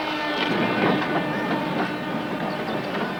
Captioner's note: train sounds